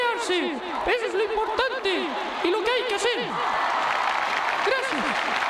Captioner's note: applause